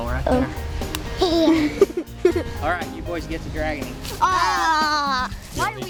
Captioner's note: laughter